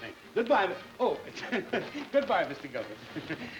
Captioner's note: laughs